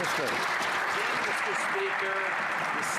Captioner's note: some Applause